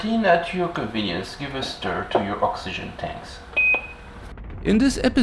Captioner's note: lower beep